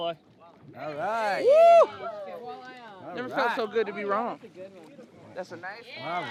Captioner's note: cheering